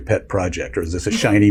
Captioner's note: laugh